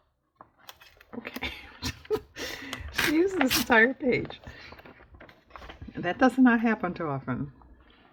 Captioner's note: laughs